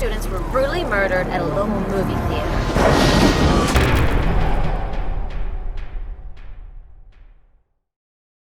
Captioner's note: impact sound